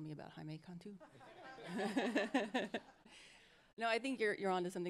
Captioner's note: all laughing